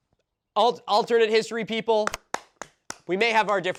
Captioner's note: clapping